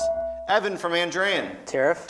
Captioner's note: beeping